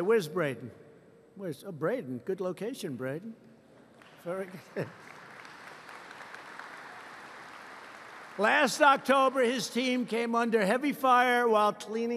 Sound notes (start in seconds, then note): 5.1 laughs; 5.8 applause